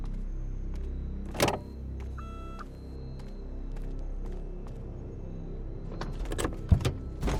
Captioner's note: car lock thuds; car beeps